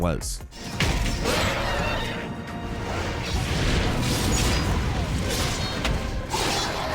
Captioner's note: sounds of combat boom; dramatic music begins